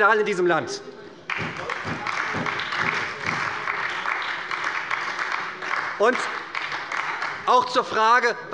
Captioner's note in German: Beifall bei der SPD